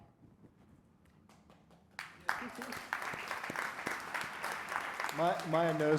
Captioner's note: audience applauding